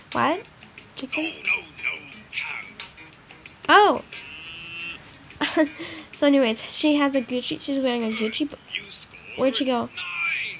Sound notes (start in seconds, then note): 4.1 cow moos; 4.1 laughs